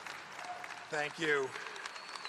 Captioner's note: applause